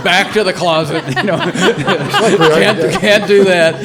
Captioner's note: all laughing